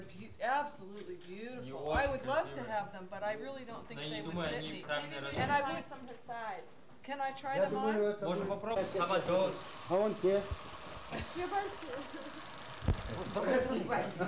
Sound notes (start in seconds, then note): 8.1 russian speech; 11.1 chuckling